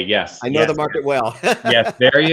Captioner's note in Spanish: Risas